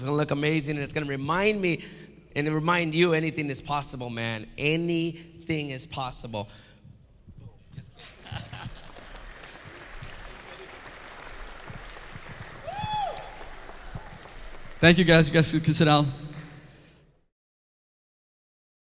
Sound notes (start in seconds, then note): 7.9 laughing; 10.5 audience clapping